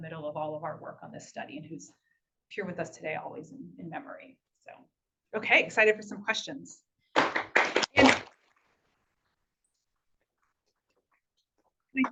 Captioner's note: applause